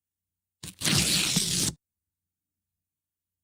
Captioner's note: ripping